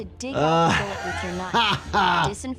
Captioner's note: laughs